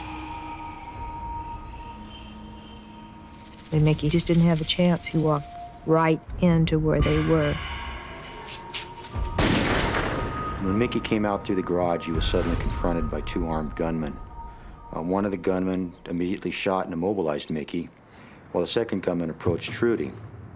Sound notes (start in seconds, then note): 9.3 gunshot